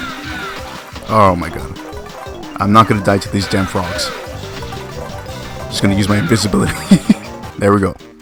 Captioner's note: laughs